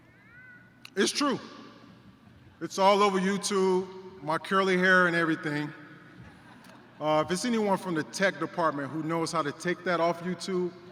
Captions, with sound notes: It's true. It's all over YouTube, my curly hair and everything. [Laughter] If it's anyone from the tech department who knows how to take that off YouTube,